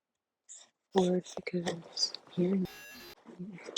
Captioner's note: signal loss